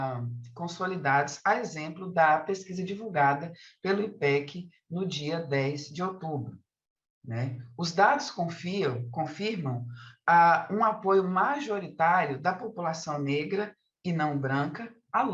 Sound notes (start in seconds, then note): 7.0 continues speaking in Portuguese